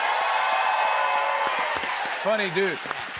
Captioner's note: cheers and applause